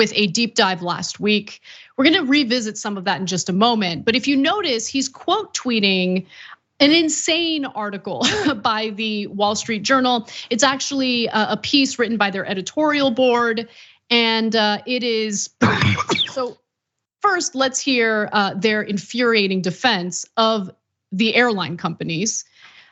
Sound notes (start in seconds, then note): 15.6 cough